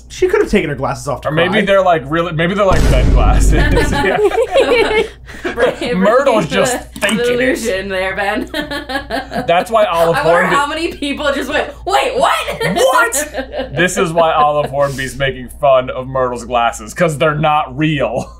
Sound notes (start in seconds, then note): 2.7 boom; 3.6 laughter